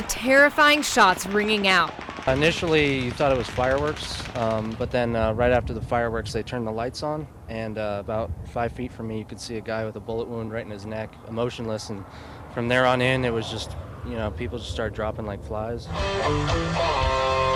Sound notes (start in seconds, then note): 3.3 gunfire